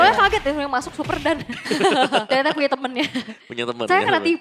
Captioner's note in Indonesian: tertawa